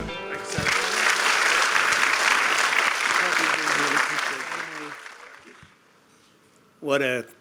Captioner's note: applause